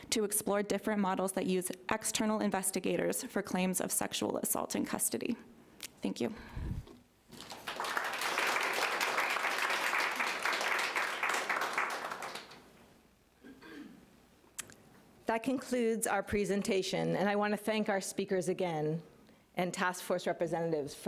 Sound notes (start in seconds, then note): 7.3 audience applauding